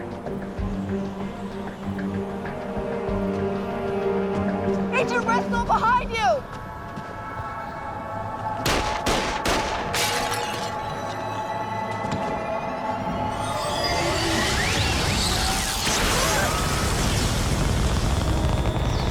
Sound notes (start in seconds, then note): 8.6 gunshots; 9.3 object shatters; 10.6 tense music